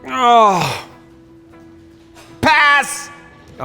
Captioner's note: groans